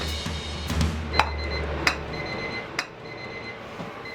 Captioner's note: timer beeps